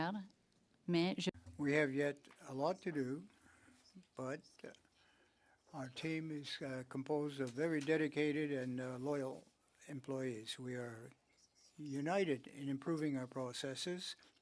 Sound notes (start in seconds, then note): 4.1 speaking French